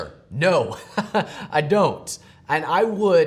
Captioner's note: chuckle